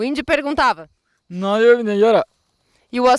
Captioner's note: speaking in Tupi-mondé